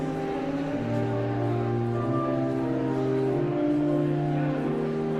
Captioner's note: audience chattering continues